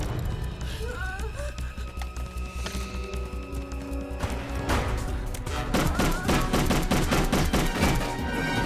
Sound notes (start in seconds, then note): 0.9 Nikita groaning; 5.6 guns firing